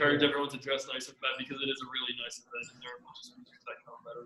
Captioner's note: murmurs